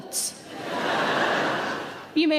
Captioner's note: audience laughing